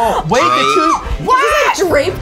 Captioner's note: screams